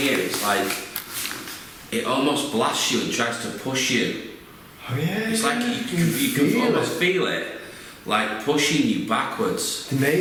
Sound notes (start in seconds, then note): none